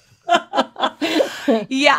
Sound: laughs

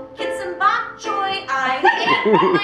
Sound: laughter

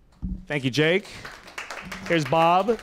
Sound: applause

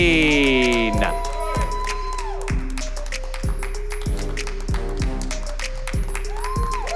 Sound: cheering and Applause

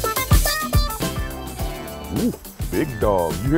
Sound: dog barking

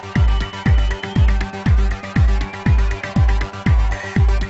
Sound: crowd cheering

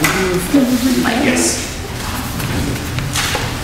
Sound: shuffling

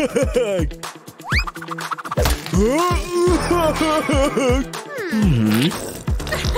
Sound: grunting

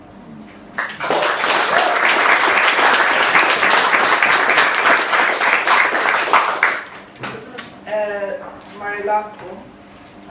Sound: clapping

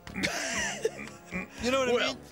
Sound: Jake laughing

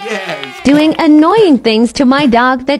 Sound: cheering; robotic Voice

